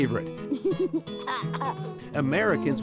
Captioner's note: laughs